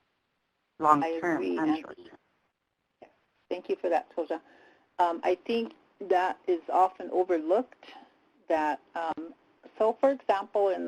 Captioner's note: native language spoken